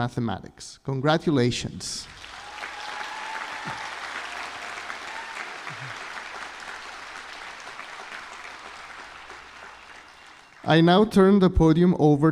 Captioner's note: applause